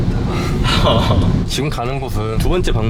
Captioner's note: chuckles